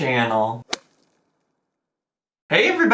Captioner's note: slapping sound effect